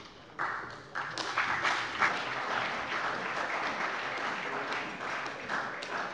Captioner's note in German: Beifall bei der CDU und dem BÜNDNIS 90/DIE GRÜNEN